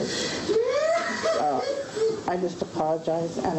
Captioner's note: sobbing